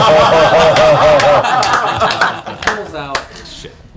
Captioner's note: laughter